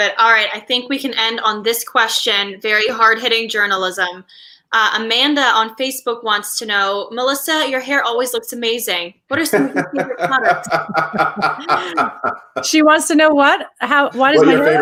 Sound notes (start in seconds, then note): 9.3 laughs